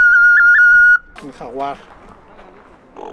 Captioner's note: dealer in Spanish